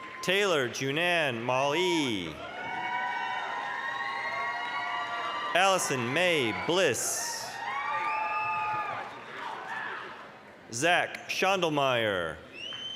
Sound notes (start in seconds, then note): 1.7 applause, cheering; 12.7 applause, cheering